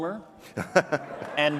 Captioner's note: interviewer laughs